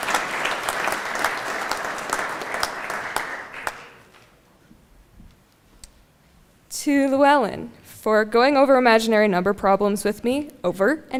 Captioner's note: applause